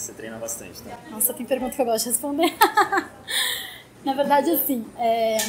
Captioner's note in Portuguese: risos